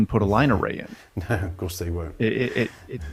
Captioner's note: chuckles